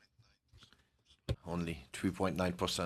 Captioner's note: speaking in French